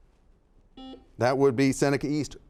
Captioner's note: buzzer dings